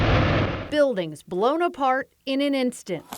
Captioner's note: loud explosion